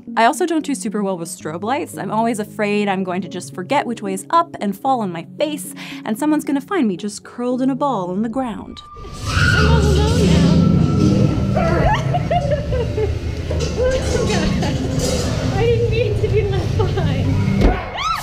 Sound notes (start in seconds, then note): 9.3 laugh/crying